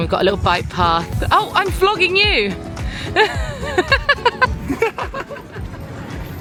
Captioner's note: laughs